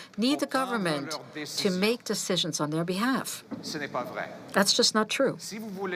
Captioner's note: speaking French